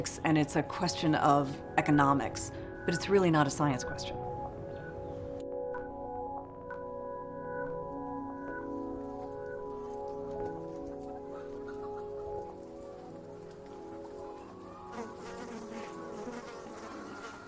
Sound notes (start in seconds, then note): 10.6 clucking; 14.9 buzzing